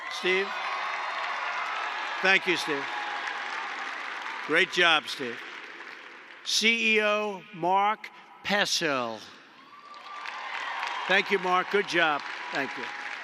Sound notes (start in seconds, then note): 9.6 applause